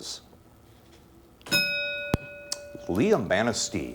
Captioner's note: ding